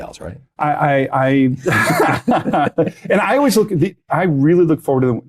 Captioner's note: laughing